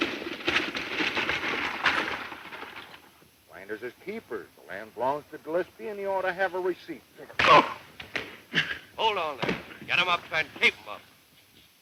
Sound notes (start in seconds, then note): 0.0 rattling wheels; 7.2 grunts; 7.2 thumps